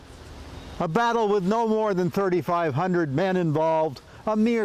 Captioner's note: none